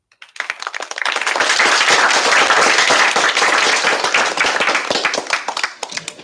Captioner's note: applause